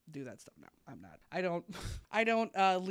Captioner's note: chuckles